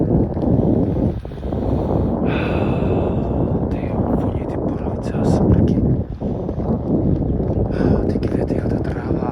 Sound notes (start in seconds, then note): 2.4 breathing in